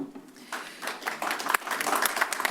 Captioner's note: applause